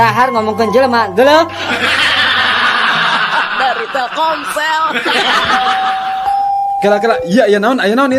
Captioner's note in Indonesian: tertawa